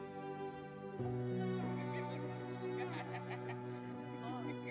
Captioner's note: laughing